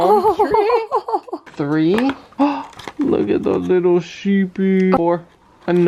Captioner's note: gasps